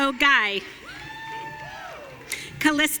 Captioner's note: audience cheering